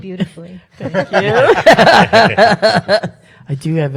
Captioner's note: panel laughs